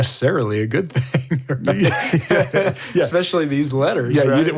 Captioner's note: all laugh